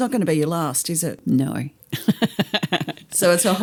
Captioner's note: laughter